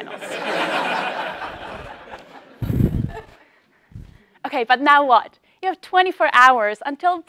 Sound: laugh

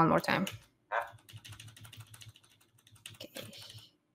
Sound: keystrokes

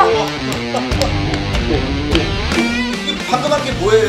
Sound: tap tap

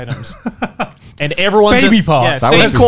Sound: chuckling

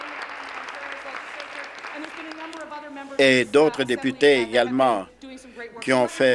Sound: applause

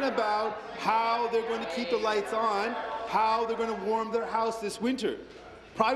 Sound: applause

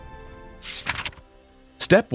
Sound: paper rustling

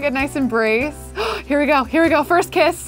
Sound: gasps

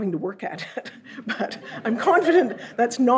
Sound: audience laughs

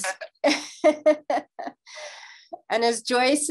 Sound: laughing

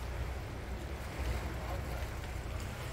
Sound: sound of water lapping in cave

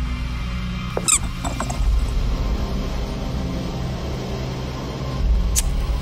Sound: rubber ball noise

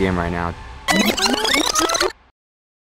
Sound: sped-up backwards noise

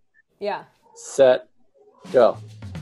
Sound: male Voice

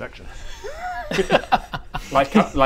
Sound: laughs at super subtle double entendre

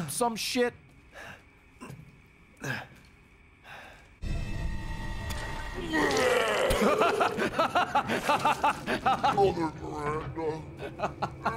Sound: laughs

